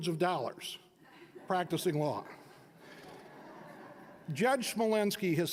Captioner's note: audience laughing